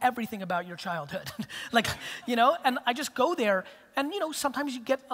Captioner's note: laughs